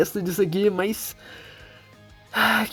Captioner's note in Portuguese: inhale